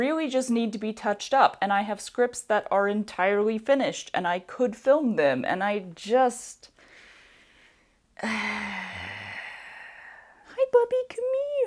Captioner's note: deep sigh